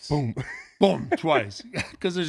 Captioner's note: laughs